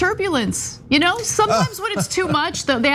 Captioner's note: laugh